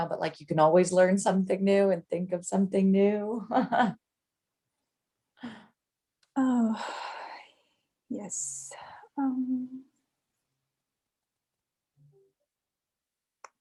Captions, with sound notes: but like you can always learn something new and think of something new, (laughs). - Oh, (sighs), yes.